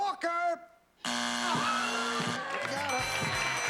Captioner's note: buzzer